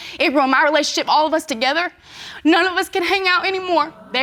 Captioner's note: crying